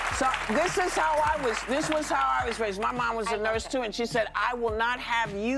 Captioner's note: applause